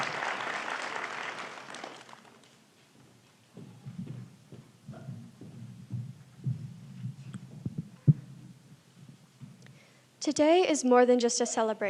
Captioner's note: applause